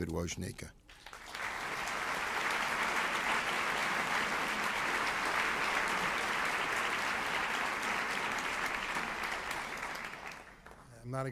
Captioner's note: applause